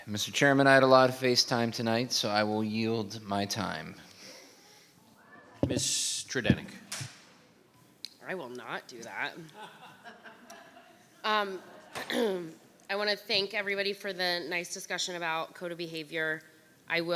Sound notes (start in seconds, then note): 9.5 audience laughing